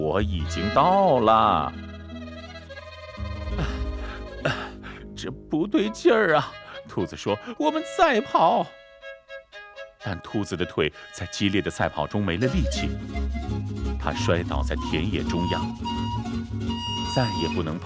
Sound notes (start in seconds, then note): 3.4 gasping